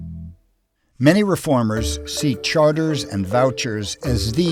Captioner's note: voiceover